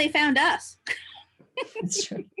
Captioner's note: laughs